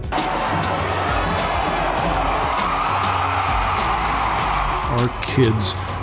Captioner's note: crowd cheering